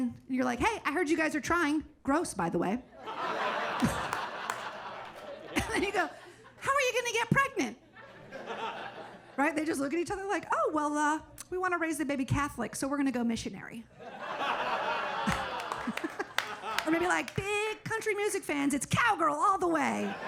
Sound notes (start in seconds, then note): 3.1 audience laughing and clapping; 8.0 audience laughing; 14.0 audience laughs and claps; 14.3 laughs